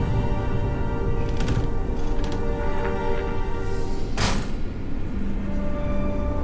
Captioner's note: doors opening and closing